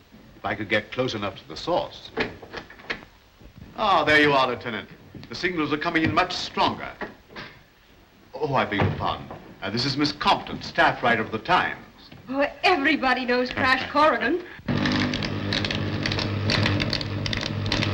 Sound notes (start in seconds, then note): 13.9 Crash chuckles; 14.6 machine buzzes